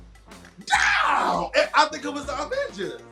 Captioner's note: yelling